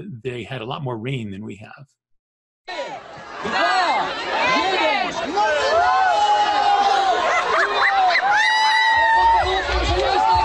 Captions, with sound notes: They had a lot more rain than we have. [cheering and excitement in Polish]